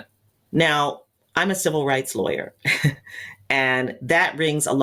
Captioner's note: chuckles